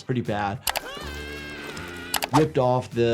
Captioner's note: Disco Bear screams